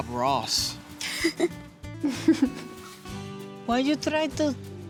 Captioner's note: laughs